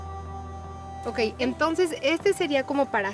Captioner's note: conversation in Spanish